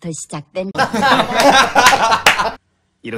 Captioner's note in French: Rires